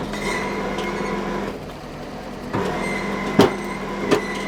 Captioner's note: engine revving